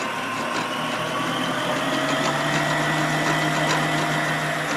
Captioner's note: mixer whirs